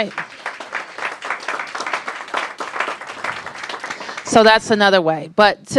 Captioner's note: applause